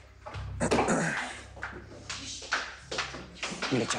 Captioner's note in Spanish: Carraspea